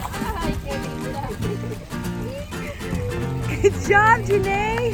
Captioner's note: woman speaking in foreign language